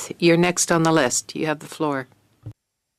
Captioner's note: speaking French